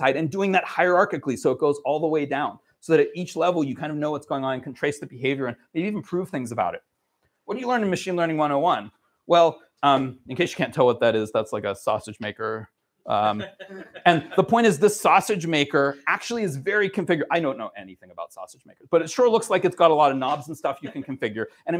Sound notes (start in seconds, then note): 13.3 laughter